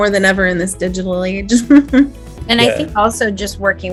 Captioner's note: chuckles